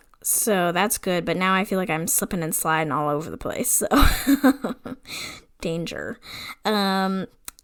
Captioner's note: laughs